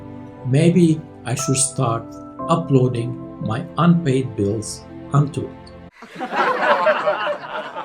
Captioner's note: laughter